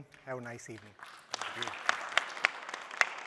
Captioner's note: applause